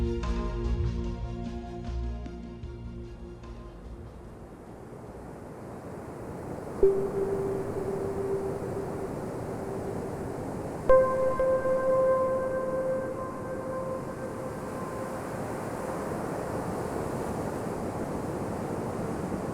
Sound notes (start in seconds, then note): 6.8 soft synth music; 6.9 wind whooshing